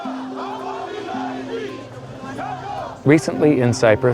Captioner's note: shouts of protest